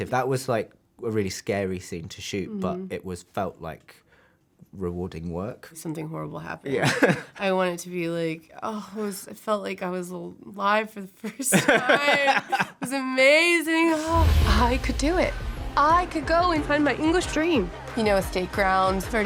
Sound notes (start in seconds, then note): 6.8 laughs